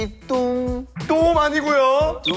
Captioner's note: an impassioned voice